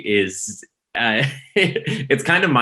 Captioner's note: laughs